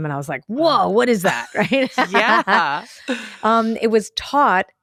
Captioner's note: laughs